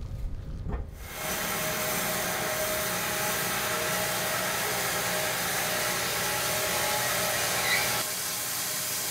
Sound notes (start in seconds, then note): 1.0 machine sawing